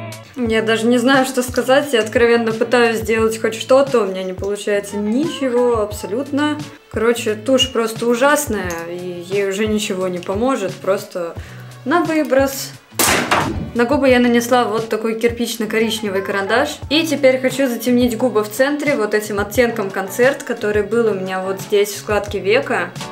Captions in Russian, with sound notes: Я даже не знаю, я откровенно пытаюсь сделать хоть что-то. У меня не получается ничего абсолютно. Короче, тушь просто ужасная и ей уже ничего не поможет. Просто на выброс. *грохот*. На губы я нанесла вот такой кирпично-коричневый и теперь хочу затемнить губы в центре вот этим оттенком Concert, который был у меня вот здесь в складке века.